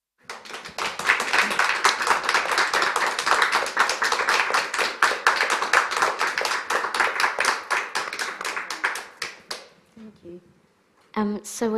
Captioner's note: applause